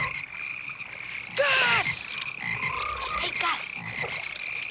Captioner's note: frogs croaking